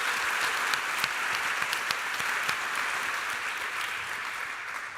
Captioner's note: applause